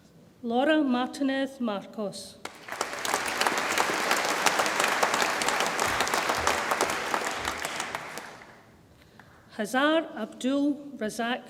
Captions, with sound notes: Laura Martinez Marcos, (audience applauds) Hazar Abdul Razzaq Mouad,